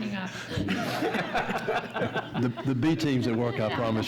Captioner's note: audience laughs